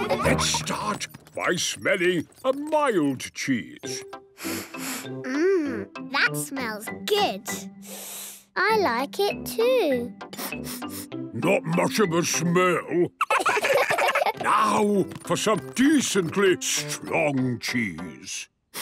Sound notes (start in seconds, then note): 4.4 sniffs; 10.3 sniffing; 10.3 sniffs